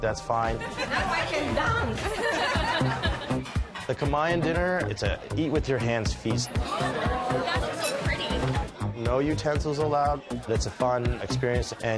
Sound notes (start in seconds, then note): 0.5 laughter